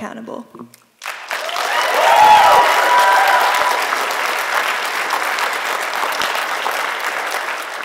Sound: applause

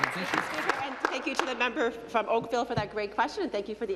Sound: applause

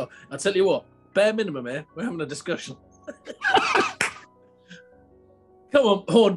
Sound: laughter

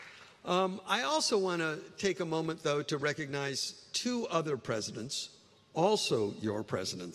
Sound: applause

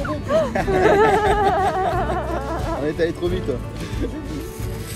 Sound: laughs

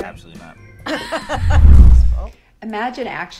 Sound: both laugh

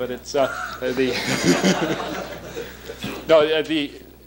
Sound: laughter

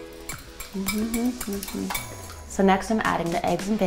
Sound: Paris hums

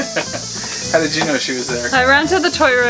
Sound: laughs

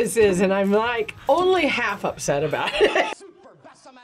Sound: laughs

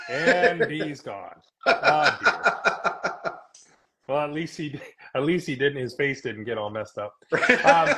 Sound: laughing

